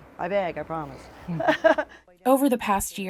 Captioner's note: laughs